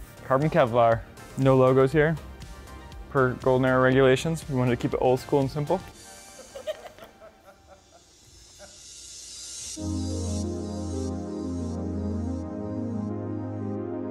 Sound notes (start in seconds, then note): 6.1 team members laughing; 9.9 mellow electronic music